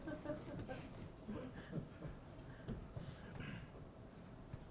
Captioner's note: audience laughing